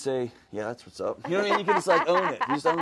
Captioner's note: host laughs